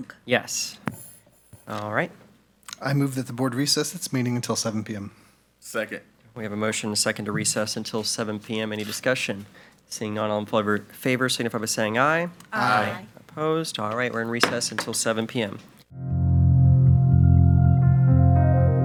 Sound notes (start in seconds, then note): 14.4 gavel bangs; 15.9 calm music